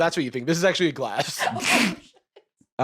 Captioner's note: laughing